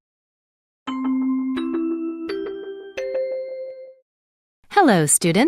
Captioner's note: chime bell rings